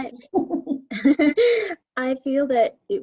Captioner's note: laughing